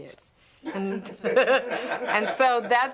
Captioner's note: all laughing